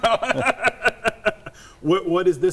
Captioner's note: laughing